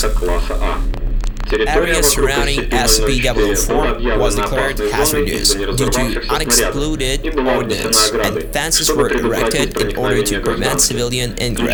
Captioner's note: static